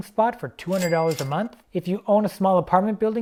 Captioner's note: cash register rings